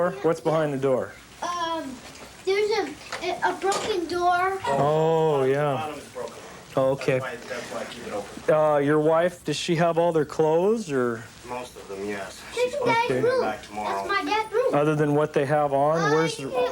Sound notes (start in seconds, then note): none